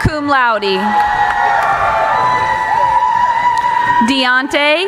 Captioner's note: cheering